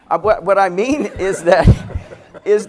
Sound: laughter

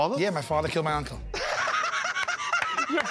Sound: laughter

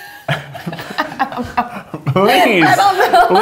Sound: both laugh

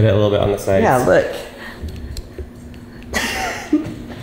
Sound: laughing

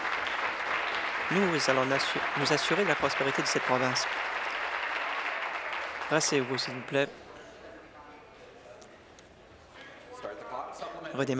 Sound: applause

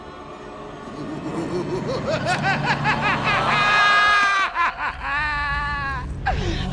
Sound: crazed laughter

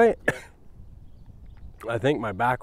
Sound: coughs

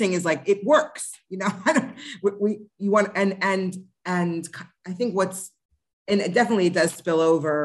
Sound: laughter

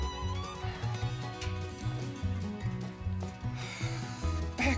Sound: sighing

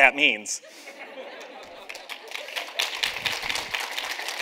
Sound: audience laughs; audience claps

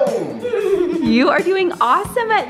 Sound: laughs

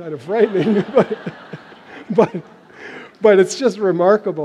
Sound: laughter

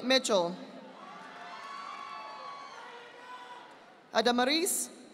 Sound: audience applauding

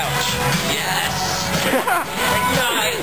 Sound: laughs

